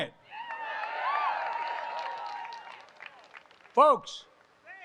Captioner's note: applause